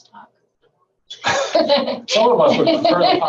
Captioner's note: laughing